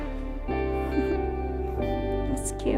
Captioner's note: chuckles